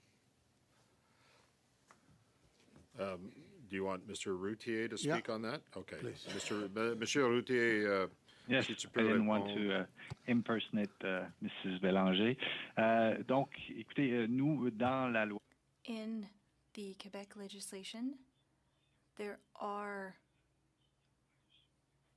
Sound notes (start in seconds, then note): 14.8 speaking French